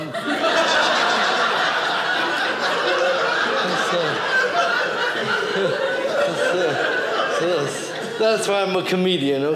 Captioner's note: audience laughing